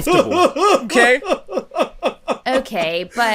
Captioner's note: laughter